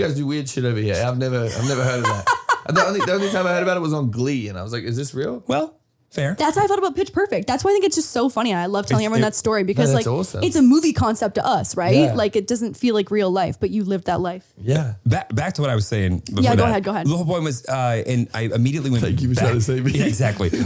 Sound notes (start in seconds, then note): 1.4 laughing